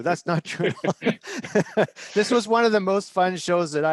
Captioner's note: chuckles